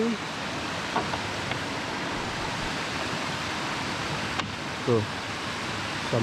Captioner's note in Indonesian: Suara air